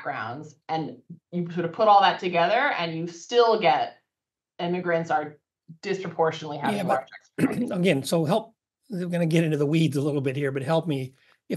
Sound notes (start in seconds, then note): 7.4 cough